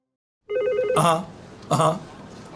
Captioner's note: phone rings